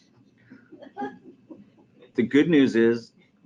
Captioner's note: audience laughing